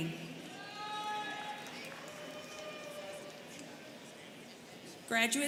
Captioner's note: students cheering